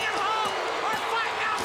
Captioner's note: bell ringing